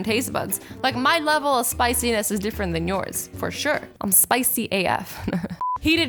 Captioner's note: laughs